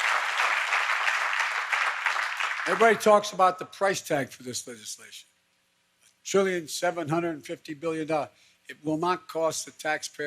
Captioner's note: applause